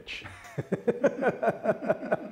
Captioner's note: laughter